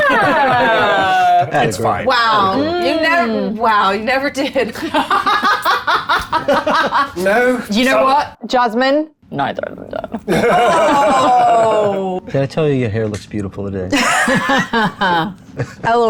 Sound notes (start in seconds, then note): 0.0 group laughs; 4.8 laughs; 10.2 group laughs; 14.4 laughs